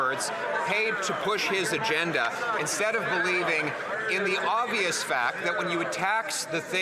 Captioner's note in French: voix de l'interprète